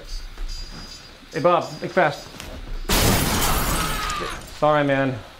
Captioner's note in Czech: rozbíjení skla; výkřik